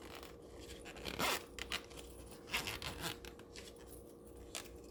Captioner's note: zip rasping